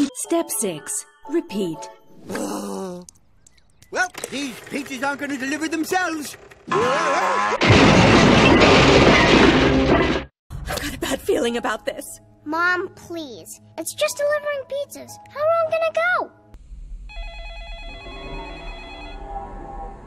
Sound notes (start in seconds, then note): 2.2 sighs; 7.5 crash; 17.1 telephone ringing